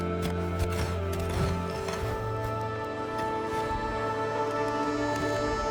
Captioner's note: metal clangs